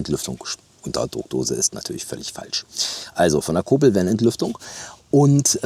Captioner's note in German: schnauben